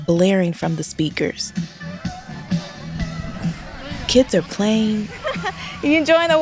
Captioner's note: laughter